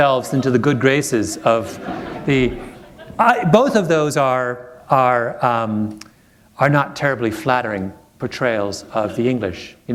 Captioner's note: laughter